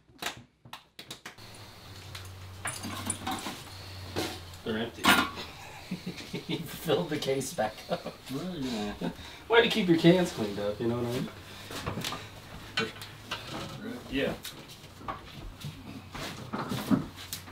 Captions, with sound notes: (cans clanking) They're empty. Filled the case back up. Way to keep your cans cleaned up, You know what I mean? Yeah.